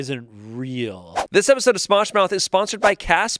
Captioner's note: screen whooshes